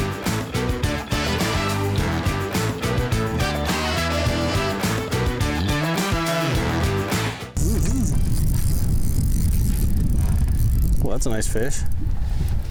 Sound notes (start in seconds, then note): 7.6 fishing rod whirring; 8.0 wind whooshing